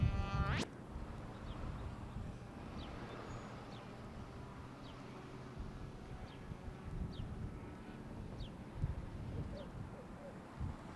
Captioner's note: birds chirping and sound of distant cars